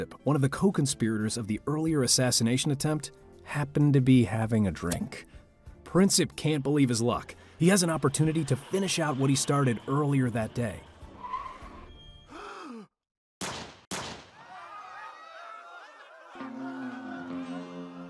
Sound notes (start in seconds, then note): 10.6 brakes whine; 10.7 tires screeching; 12.3 man gasps; 13.4 gunshots; 14.3 crowd screaming